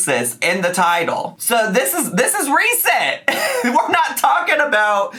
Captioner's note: laughs